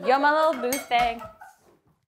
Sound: laughing

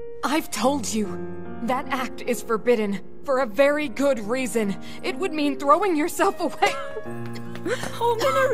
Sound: coughs

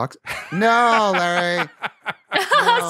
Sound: laughs

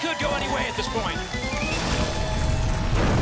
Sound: audience applause

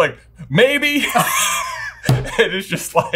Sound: laughing

